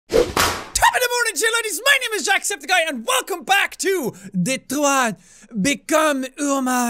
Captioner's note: whoopsh~